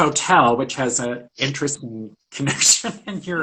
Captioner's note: laughs